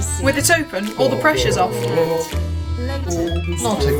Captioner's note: background chanting